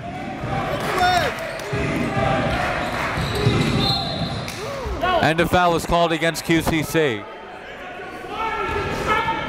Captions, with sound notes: (crowd chants "Defense") (whistle blows) And a foul is called against QCC. (crowds yelling)